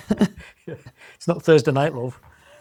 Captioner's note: laughs